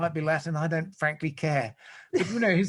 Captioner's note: laughs